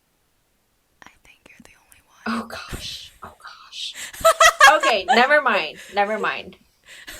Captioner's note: whispers